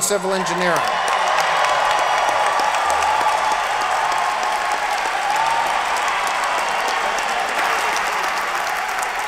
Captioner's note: applause